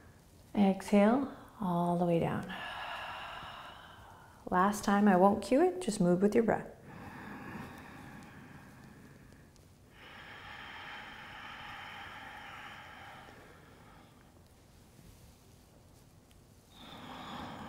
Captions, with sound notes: Exhale, all the way down. (exhaling) Last time, I won't cue it. Just move with your breath. (breathing)